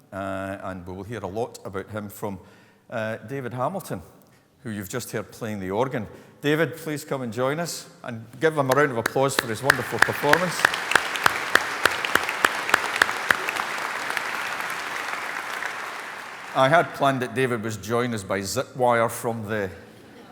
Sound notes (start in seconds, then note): 11.2 applause; 19.8 laughter